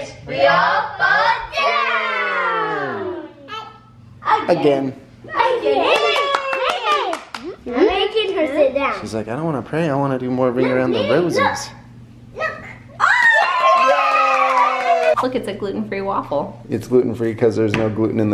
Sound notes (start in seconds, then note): 5.8 clapping and cheering; 13.0 cheering and clapping